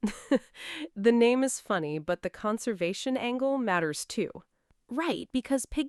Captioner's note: chuckles